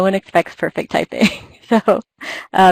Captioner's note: laugh